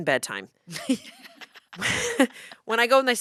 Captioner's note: laughs